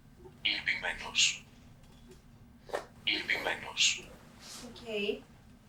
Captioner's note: achmet – artificial male voice